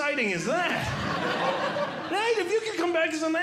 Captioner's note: audience Laughing